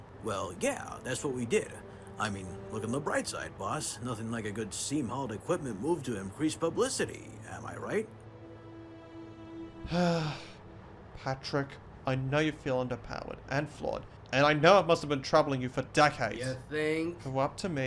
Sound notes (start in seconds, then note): 9.8 sighs